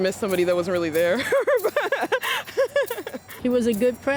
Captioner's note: laughs